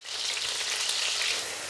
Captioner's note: sizzling sound